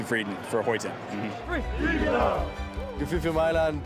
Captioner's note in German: Anfeuernde Laute